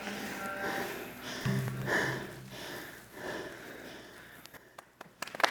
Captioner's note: their heavy breathing explains how difficult the performance was